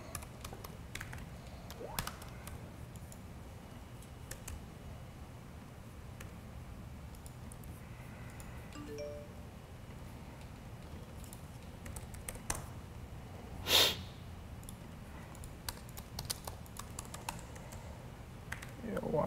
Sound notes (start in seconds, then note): 1.6 keyboard typing; 8.7 computer chimes